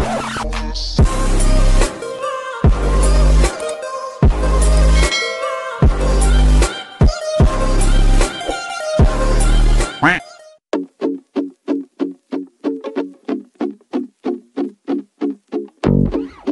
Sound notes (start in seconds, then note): 10.0 quack